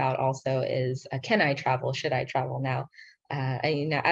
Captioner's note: speaking in foreign language